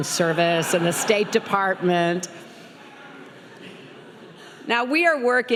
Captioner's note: laughing